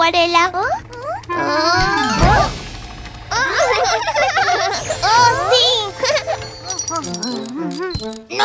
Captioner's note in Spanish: Risas